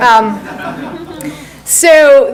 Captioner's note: audience laughs